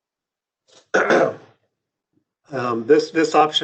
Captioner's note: clears throat